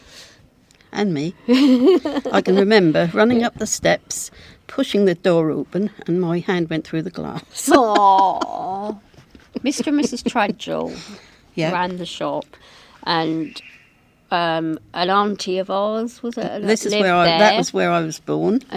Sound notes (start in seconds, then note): 7.4 laughter